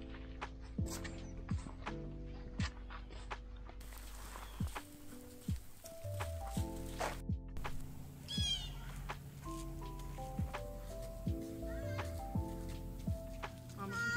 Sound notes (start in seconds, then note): 7.6 Blue Jay calling